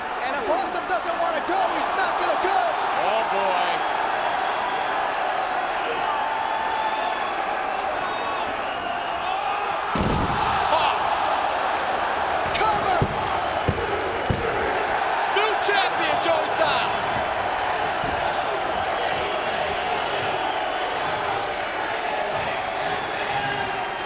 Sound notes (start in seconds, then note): 4.0 crowd cheering; 9.8 bodies slamming; 15.0 crowd cheering; 17.3 crowd cheering